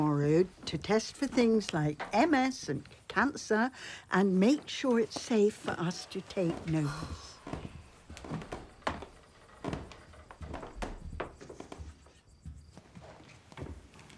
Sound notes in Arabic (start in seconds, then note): 6.8 جيم يتنهد